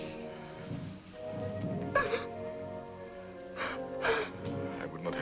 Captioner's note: sobbing